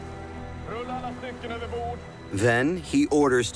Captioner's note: speaking Swedish